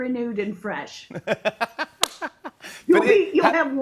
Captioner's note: laughs